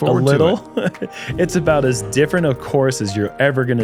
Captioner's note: laughs